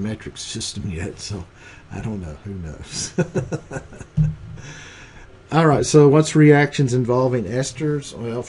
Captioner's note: giggles